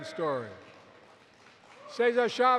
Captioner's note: applause